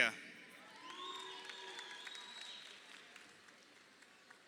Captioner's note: crowd cheering